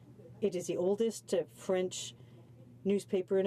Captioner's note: speaking in french